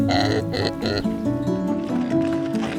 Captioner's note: bella snorts